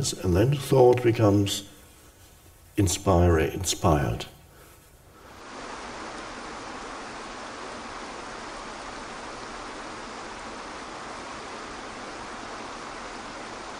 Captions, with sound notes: and then thought becomes inspiring, inspired. (waterfall rushes)